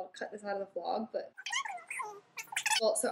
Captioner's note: high pitched sped up gossiping